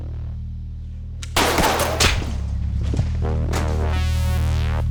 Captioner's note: gun shots blaring